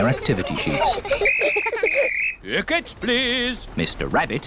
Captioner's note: blows whistle